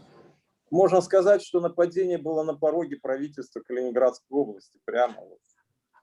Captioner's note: speaking Russian language